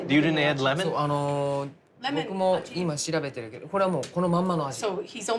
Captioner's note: speaking Japanese